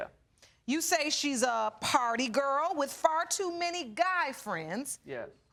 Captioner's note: none